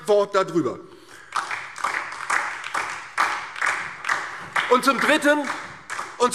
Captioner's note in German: Beifall DIE LINKE und SPD